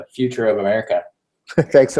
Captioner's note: laugh